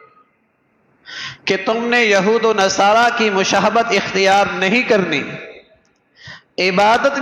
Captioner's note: sigh